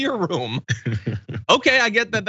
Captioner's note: laugh